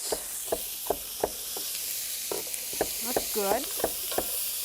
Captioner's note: pan sizzling